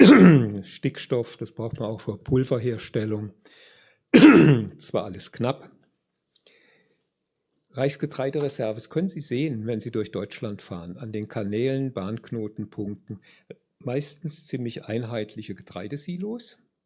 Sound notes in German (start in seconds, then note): 0.0 räuspern; 4.2 husten